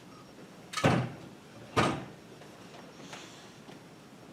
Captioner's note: door clicking; door thudding